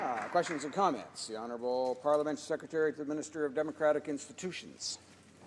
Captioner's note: some applause